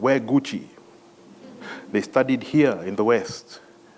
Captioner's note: laugh